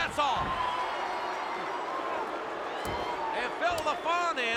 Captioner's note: crowd booing